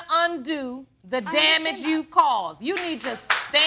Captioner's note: audience applauds